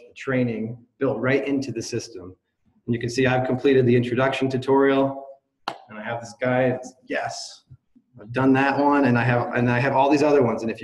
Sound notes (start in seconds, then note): none